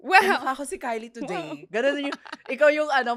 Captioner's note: laughs